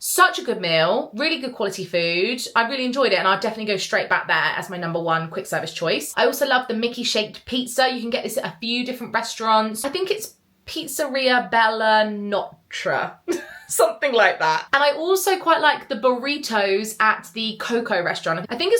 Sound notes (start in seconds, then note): 13.2 giggles